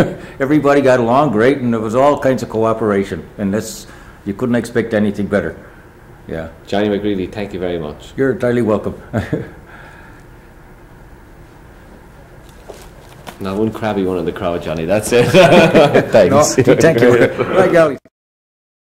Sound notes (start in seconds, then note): 15.1 laughs